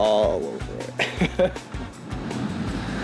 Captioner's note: laughing